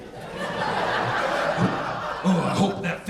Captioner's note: audience laughing